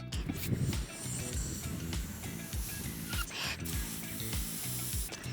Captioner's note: air filling balloons